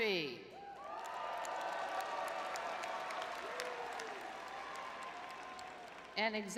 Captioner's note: audience cheering